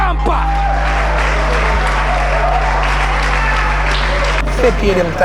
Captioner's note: spectators applauding